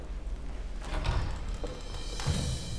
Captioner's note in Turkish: Kapı açılma sesi